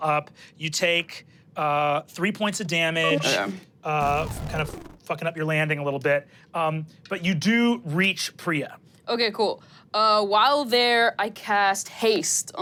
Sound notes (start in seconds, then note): 3.0 computer beeps; 4.0 engine powering down